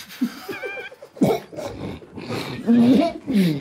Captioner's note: group quietly snort-laughing; gagging; gargling; group quietly laughing